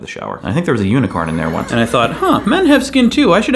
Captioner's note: horse whinnies